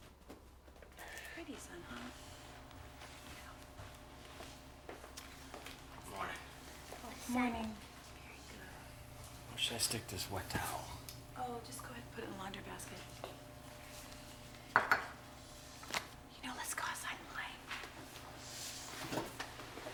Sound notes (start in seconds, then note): 0.4 Addison breathes heavily; 14.7 coffee mug clatters